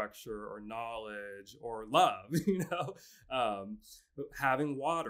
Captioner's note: laughs